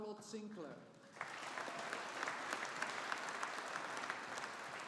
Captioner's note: audience applauding